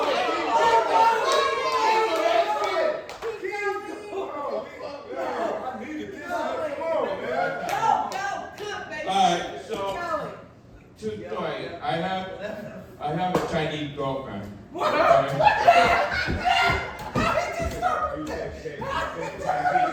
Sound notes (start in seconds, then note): 1.5 audience member clapping; 3.7 laughing; 15.2 audience laughing